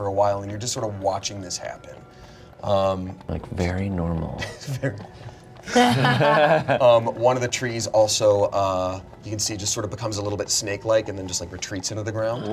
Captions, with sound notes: and you're just sort of watching this happen. - Like, very normal. (everyone laughs) - One of the trees also you can see just sort of becomes a little bit snake-like and then just like retreats into the ground.